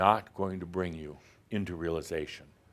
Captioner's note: none